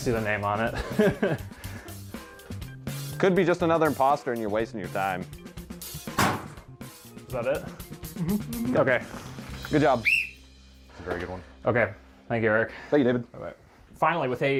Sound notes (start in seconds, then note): 10.0 whistle